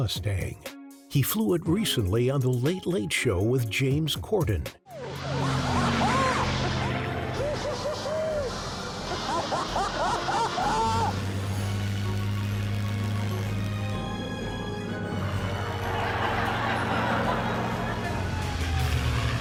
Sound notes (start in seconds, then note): 7.3 Tom whoops; 15.2 audience laughs